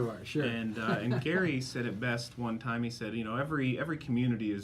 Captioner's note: chuckles